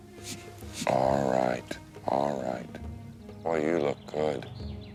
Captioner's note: Half Nose huffing